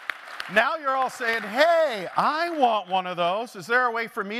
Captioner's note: applause